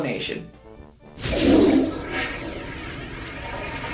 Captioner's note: flush noise